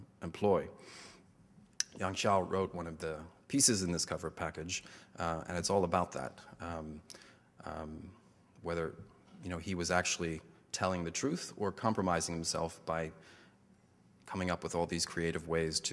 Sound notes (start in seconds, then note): 1.9 foreign language